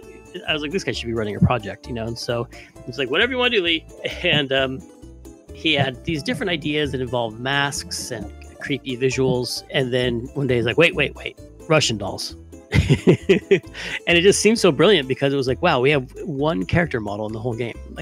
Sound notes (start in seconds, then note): 12.7 laughs